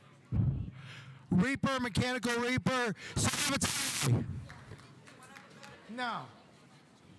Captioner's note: staticky buzzing